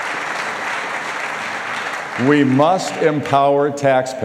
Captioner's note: applause